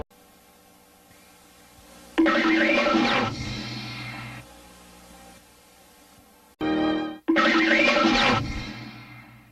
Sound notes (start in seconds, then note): 2.2 cartoon sounds resuming